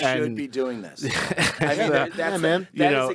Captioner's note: laughing